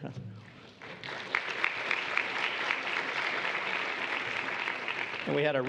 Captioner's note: applause